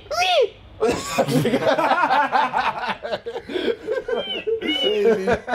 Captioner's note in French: Fou Rire